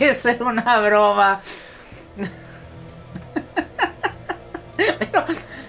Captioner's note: laughs